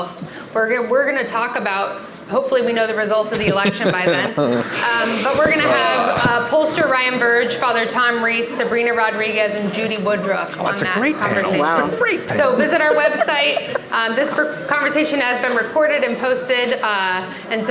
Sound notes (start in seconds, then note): 3.3 group laughing; 4.3 guest groaning